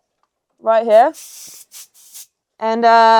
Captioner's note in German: Druckluft zischt